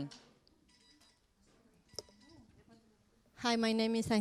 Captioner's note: beeping